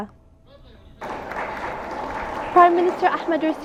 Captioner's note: applause